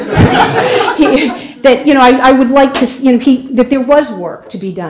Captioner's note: laughter